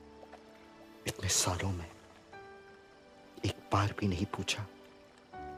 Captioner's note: foreign language